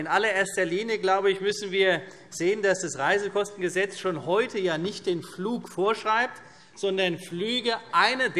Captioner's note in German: none